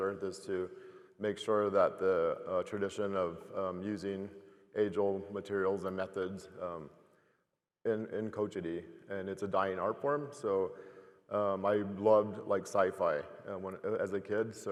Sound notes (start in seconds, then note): 7.1 speaking foreign language